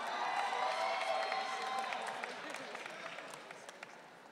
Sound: audience cheering

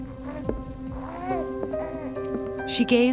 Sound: Elizabeth coos

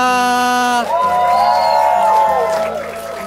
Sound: crowd woohs!

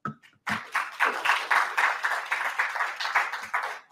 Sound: audience applauds

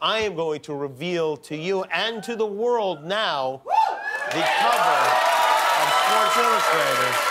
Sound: cheers and applause

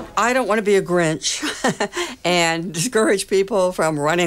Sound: laughing

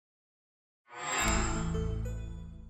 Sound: chime

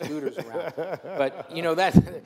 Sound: laughs

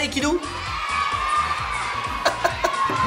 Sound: children cheer in agreement

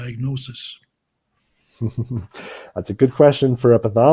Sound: chuckles

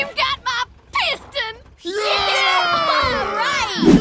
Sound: cheering

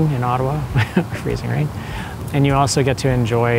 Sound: chuckles

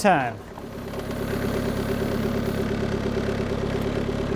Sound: motor rumbling

